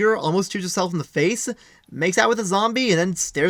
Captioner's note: none